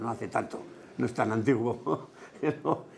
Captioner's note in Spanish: ríe